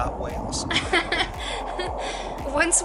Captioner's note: laughter